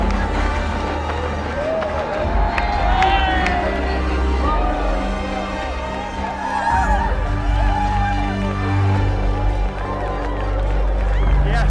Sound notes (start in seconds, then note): 0.2 dramatic music; 6.8 crowd cheers